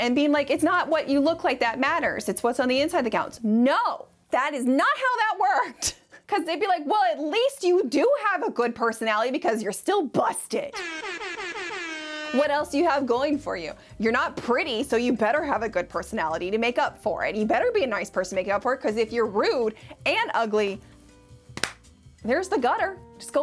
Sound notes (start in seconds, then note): 10.7 air horns